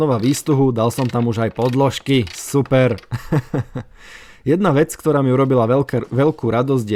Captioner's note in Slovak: smiech